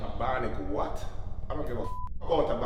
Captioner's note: beep